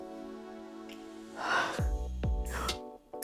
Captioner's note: sigh